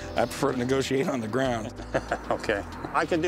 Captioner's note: chuckles